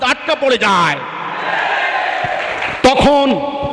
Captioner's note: clap